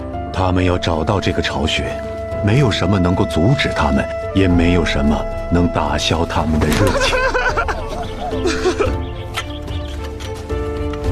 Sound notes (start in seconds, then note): 6.8 laughter